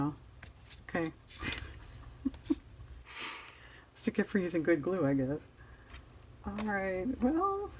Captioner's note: laughs